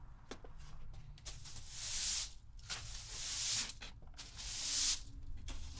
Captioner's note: broom rustling continues